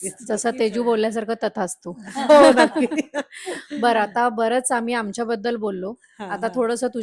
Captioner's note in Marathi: हास्य